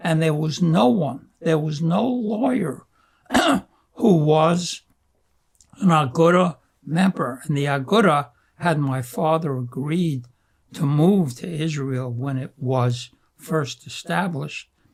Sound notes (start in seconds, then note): 3.2 clears throat